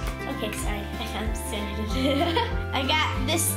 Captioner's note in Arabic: يضحك